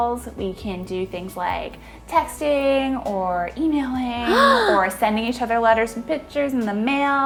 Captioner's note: gasps